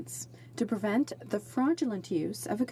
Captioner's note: speaking French